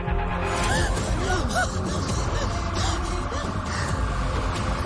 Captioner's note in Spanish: Sollozos y jadeos